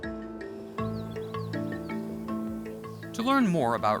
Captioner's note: birds twittering